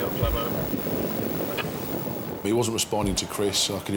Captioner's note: wind whooshing; helicopter whirls